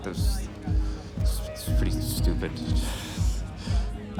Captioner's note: laughs